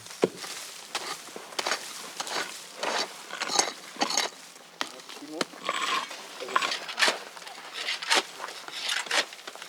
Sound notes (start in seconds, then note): 3.4 stone scraping, snatches of conversation